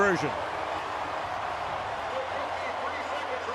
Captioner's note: crowd cheering